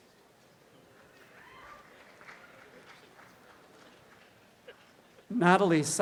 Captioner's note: audience applause